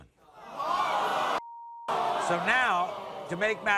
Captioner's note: audience groans